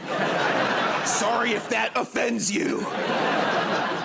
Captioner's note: laughter